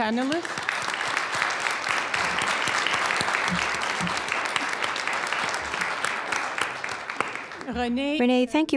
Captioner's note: applause